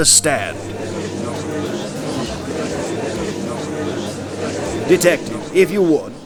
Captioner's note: gallery chattering